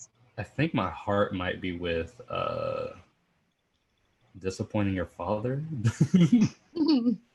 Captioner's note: laughs